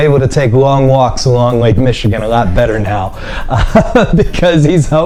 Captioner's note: laughing